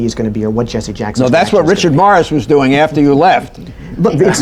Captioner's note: laughter